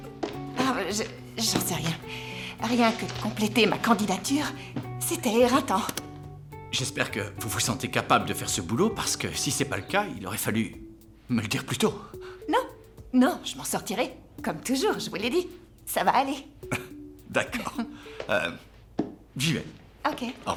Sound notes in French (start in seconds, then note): 16.4 rires